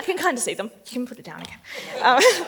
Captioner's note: laughs